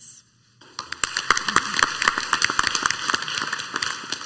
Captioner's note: clapping